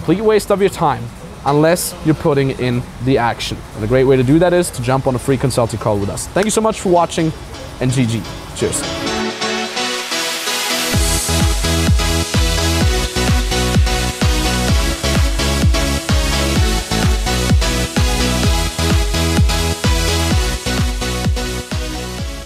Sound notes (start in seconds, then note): 6.4 hands clap; 9.5 upbeat party music